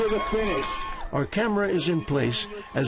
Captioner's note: crowd cheering